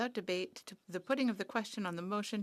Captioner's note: speaking French